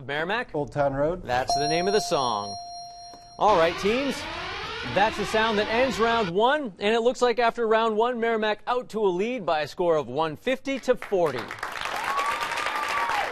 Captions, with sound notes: "Old Town Road"? [ding] That's the name of the song. [alarm blares] All right, teams. That's the sound that ends round one. And it looks like after round one, Merrimack out to a lead by a score of 150 to 40. [cheers and applause]